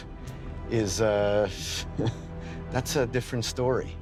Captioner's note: chuckles